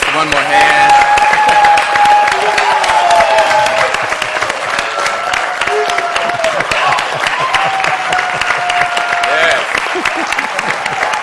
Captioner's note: applause; laughter; applause